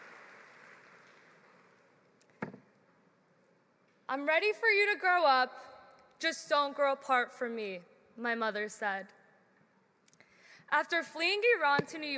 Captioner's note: applause